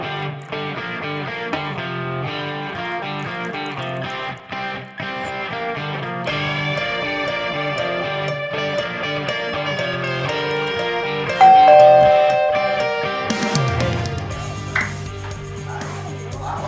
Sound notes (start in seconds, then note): 11.4 doorbell rings